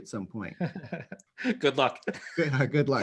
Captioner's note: chuckles